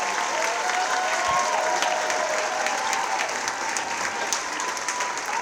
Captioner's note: audience cheering and clapping